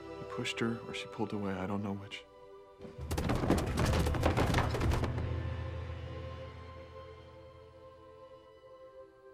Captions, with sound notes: He pushed her or she pulled away, I don't know which. (Mary thudding)